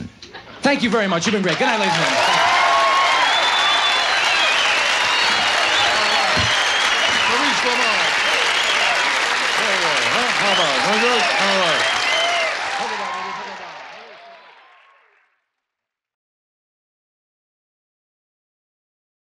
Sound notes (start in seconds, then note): 2.6 audience applauds and cheers; 12.2 audience cheers